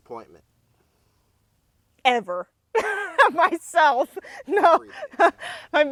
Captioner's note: laughs